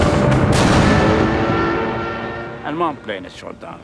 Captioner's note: gunshot fire; airplane explodes